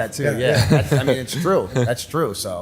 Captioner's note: chuckle